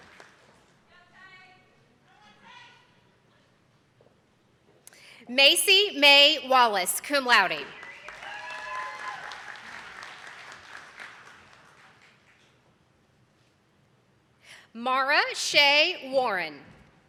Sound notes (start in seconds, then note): 1.5 woman shouting; 7.5 attendees clapping